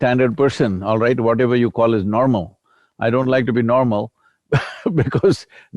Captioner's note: laughs